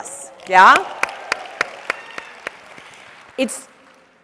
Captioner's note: audience applauds